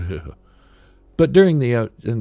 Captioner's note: shudder